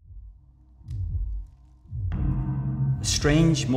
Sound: heartbeat

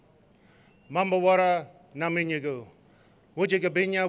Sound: non-english speech

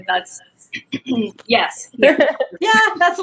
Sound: clears throat

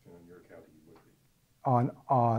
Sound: voiceover

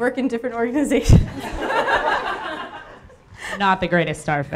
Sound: everyone laughing

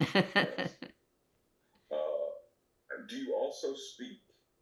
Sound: laughs

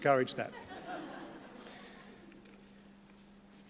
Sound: laughter

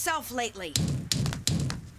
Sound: <i>knocking</i>

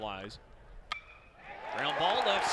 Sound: crack of bat and cheers

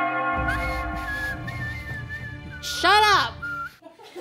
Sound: bells Ringing; whistle; laughing

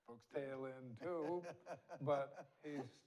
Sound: laughs

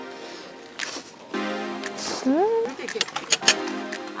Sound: slurp

